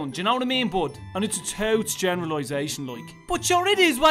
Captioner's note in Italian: Accento del sud di Dublino